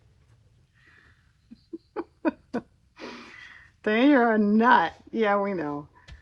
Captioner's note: laughs